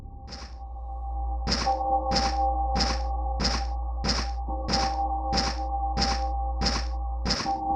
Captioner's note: eerie ambient music; footsteps thudding